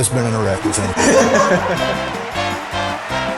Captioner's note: laughs; upbeat music